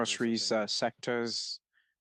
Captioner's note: speaking French